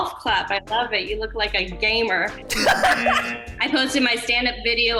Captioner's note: laughs